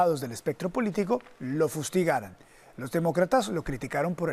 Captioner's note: HABLA EN INGLéS